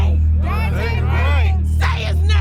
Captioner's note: crowd